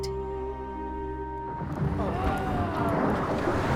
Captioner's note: rumbling, visitors exclaiming